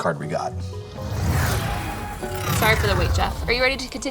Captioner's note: electronic swoosh